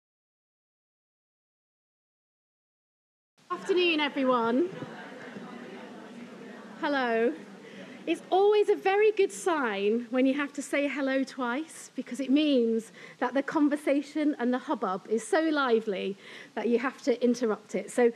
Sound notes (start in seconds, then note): 5.5 audience chattering indistinctly